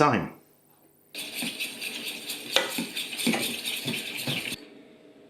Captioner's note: stir stir whisk whisk